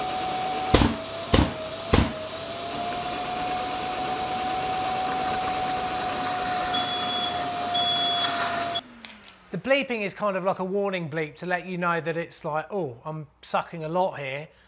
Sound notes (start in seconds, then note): 0.7 wet vac booms; 6.9 wet vac beeps